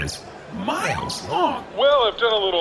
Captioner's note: in a “not to brag, but” voice